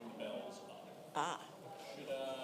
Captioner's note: gasps